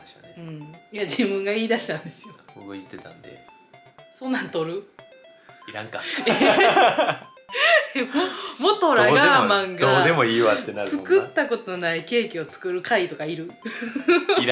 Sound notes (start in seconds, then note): 6.1 laughter; 13.7 laughs